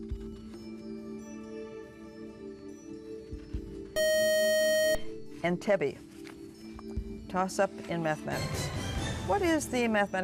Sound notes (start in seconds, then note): 4.0 beep